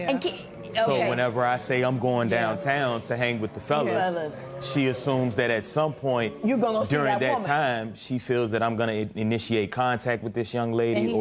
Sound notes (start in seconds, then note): none